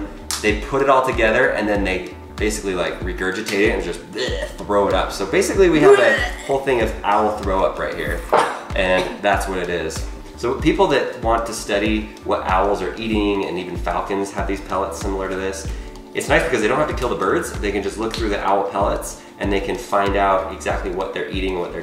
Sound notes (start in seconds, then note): 6.0 throwing up sound